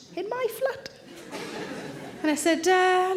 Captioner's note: audience laughing